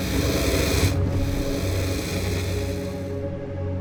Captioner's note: dragon growls